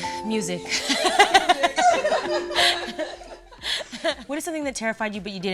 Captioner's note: dramatic music; laughter